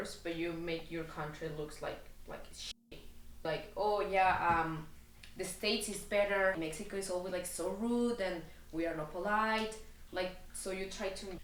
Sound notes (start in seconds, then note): none